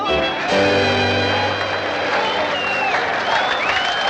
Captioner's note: cheers and applause